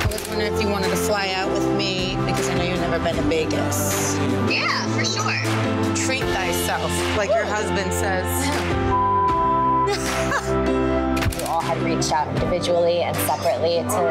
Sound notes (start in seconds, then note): 8.9 beep; 9.9 laughing